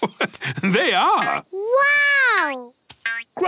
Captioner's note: laugh